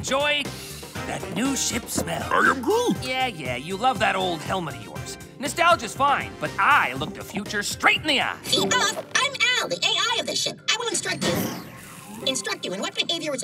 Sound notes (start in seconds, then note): 0.5 breathes deeply; 8.5 exclaims; 11.4 explodes